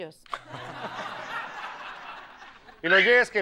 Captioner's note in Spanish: Risas; Ríe